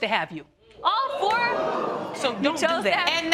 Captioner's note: audience gasp